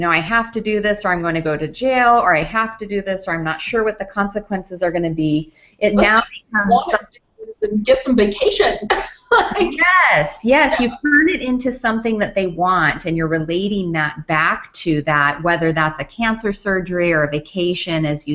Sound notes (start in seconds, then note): 5.9 audio skips; 10.4 laughs